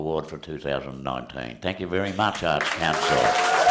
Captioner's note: cheering and applause